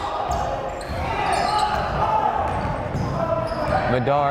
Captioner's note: yelling